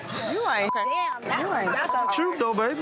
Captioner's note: beep